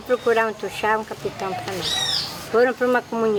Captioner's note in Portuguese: pássaros cantando